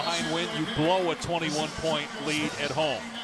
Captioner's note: horn